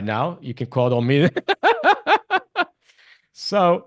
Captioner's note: laughs